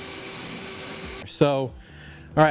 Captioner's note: blowing